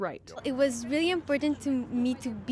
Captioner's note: speaking French